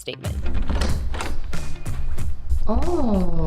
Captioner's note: door know clanging